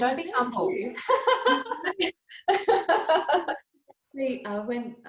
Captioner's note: both laughing